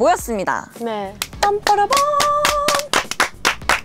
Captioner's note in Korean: 박수!!!